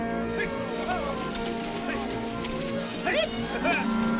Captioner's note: cowboys yelling